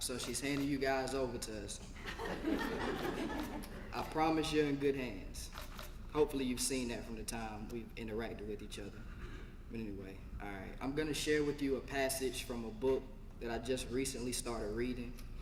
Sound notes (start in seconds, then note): 2.0 laugh